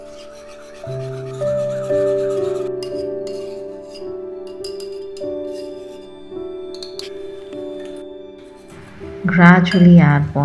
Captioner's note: whisking sound; tapping sound